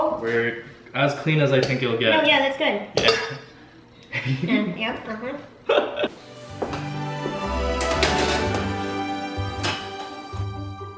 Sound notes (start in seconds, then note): 5.6 bright giggling; 6.1 whimsical music